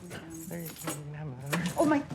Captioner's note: mumbles